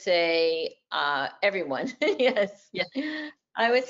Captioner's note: laughs